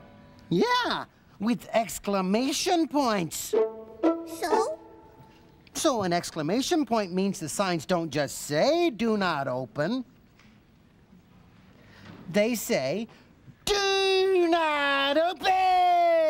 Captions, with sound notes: YEAH! WITH EXCLAMATION POINTS. SO? SO, AN EXCLAMATION POINT MEANS THE SIGNS DON'T JUST SAY "DO NOT OPEN." ( silence ) THEY SAY "DO NOT OPEN!"